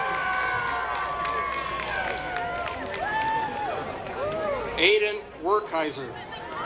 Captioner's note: applause